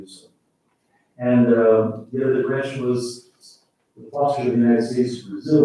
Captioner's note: faintly speaking